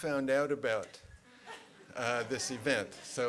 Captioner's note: laughter